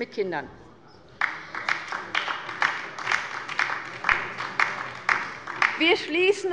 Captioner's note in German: Beifall bei der LINKEN